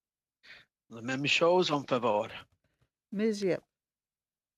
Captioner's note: speaking FRENCH